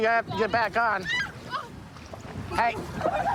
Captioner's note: screaming